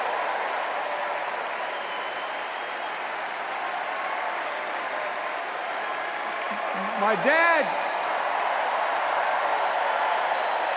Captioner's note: cheers and applause